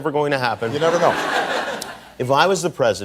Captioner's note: audience laughing